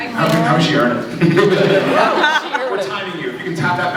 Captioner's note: laughs